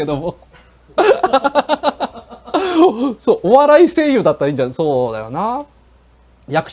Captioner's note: laughs